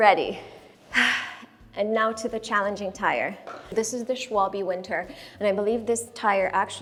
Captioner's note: sigh